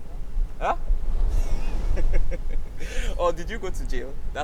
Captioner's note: laughing